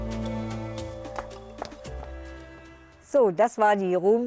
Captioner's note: footsteps, soft music